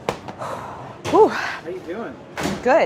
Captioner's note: sighs